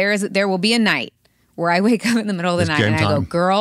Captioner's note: laughs